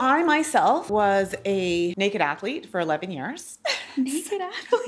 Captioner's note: laughing